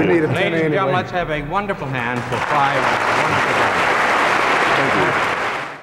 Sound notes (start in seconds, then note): 0.0 laughing; 3.8 crowd applauds